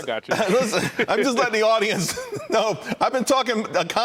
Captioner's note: laughter